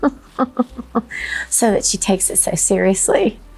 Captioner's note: person laughing